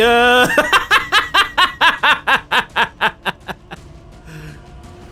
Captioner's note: laughs